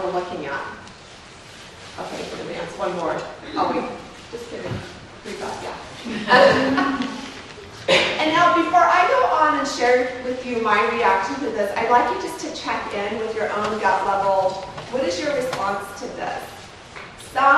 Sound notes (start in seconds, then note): 6.0 laughs